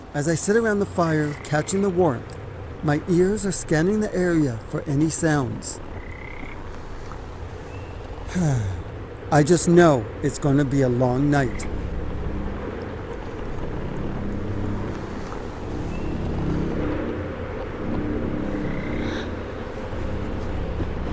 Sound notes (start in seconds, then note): 8.2 sighs; 14.5 ominous music